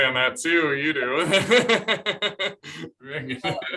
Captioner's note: laughter